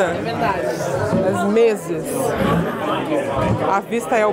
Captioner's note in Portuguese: ambiência de restaurante